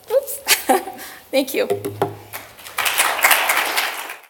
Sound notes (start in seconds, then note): 2.7 applause